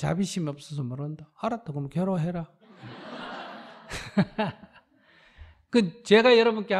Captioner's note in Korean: 청중 / 스님 웃음